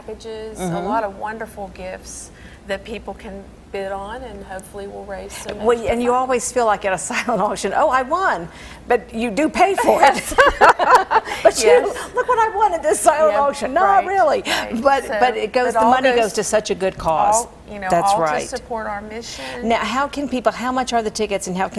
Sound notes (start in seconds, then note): 9.9 laughing